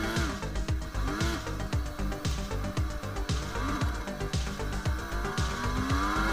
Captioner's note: car engine roaring; upbeat music